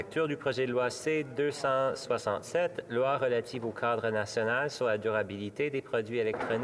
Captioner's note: speaking French